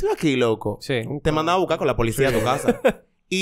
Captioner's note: laughs